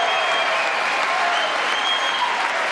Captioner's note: applause